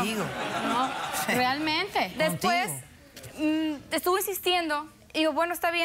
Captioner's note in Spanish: risas